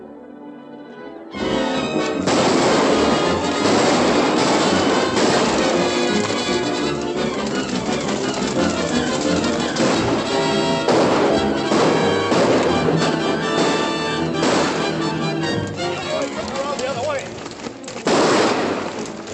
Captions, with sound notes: [ FIRING ] [ FRANTIC MUSIC ] [ GUNSHOTS AND HORSES GALLOPING ] Let's go the other way! [ GUNSHOTS ]